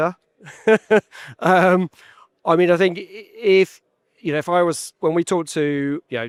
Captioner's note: giggles